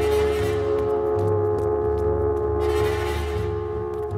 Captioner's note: footsteps tapping